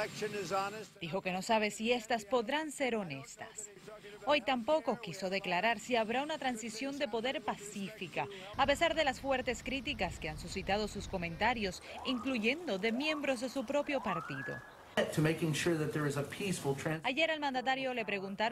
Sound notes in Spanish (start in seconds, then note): 4.9 habla en ingés